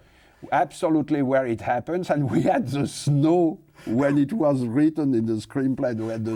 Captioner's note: laughs